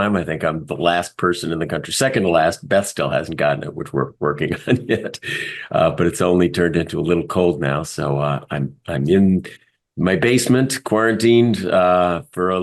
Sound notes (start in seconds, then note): 3.7 laugh